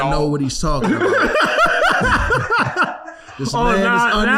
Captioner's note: laughing